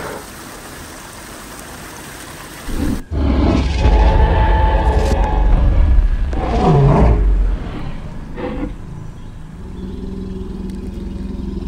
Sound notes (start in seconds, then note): 4.3 T-Rex Roaring Sounds; 8.9 T-Rex Sounds